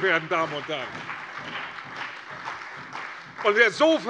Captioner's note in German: Beifall bei der CDU und dem BÜNDNIS 90/DIE GRÜNEN